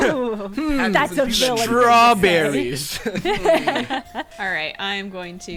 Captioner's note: players laughing